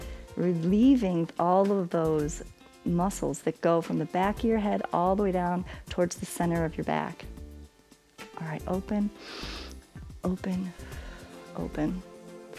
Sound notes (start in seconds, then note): 9.1 exhales; 9.2 inhales